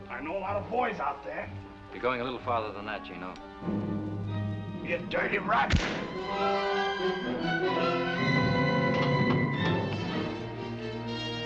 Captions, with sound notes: I know a lot of boys out there. - You're going a little farther than that, Gino. - You dirty rat! (gun firing) (dramatic music)